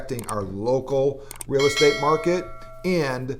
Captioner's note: bell rings